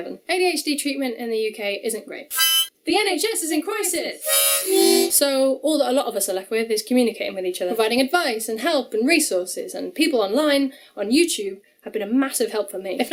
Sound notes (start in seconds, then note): 2.2 h0nk; 4.2 h0Nk